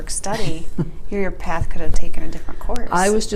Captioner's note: soften laughs